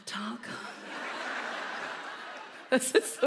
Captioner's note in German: Lachen; lacht